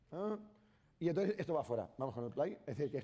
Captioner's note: speaking spanish